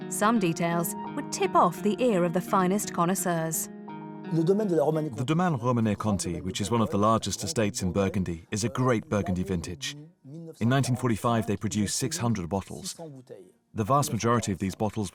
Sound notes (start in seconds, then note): 3.8 non-english speech